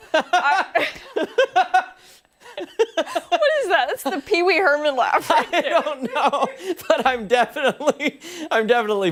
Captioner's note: laughter